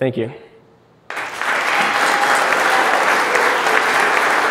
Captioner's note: applauding